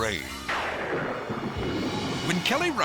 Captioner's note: lightning cracks